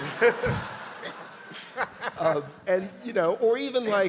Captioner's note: audience laughing